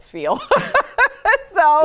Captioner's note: both laughs